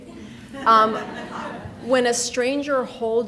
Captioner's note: people laughing